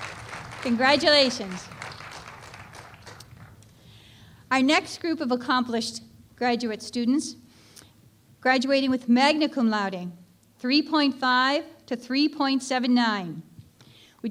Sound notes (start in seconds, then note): 2.0 applause